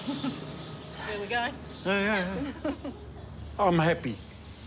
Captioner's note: chuckles; chuckles